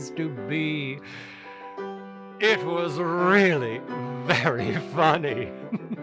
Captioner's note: satisfied inhale; chortles